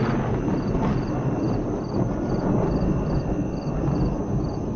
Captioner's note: thunder rumbling